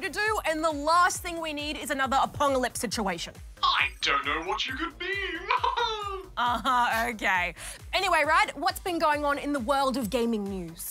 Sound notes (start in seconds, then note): 5.2 laughs